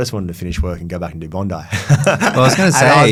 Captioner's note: laughs